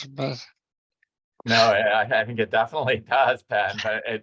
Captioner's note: chuckles